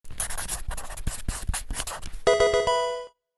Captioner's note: pencil scratching; Pokemon game sound